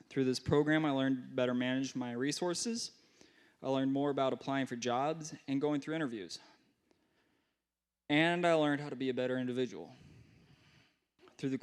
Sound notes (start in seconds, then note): none